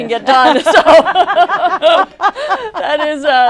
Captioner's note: laughter